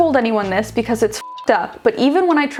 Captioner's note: beeping